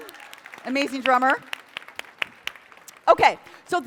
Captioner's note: applause